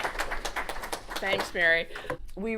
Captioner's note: applause